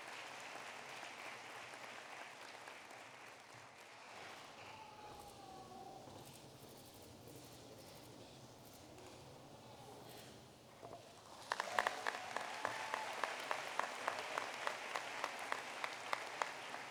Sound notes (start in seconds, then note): 11.0 applause